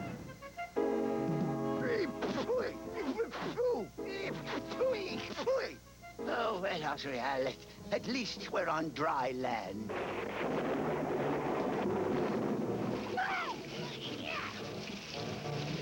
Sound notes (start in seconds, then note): 11.7 thunder